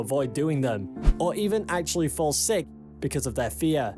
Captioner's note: screen swishes